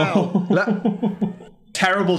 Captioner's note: Phil laughs